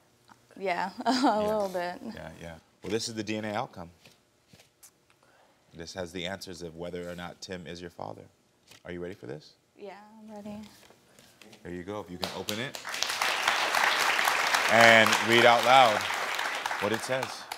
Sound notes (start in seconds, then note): 12.2 audience applauding